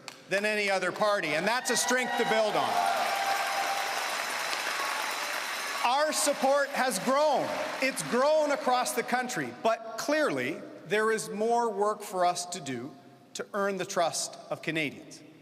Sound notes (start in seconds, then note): 6.2 cheering and Applause